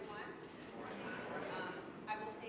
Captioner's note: crowd